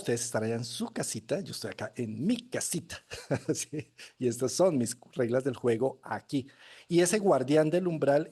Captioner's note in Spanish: risas